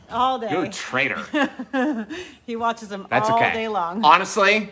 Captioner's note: chuckling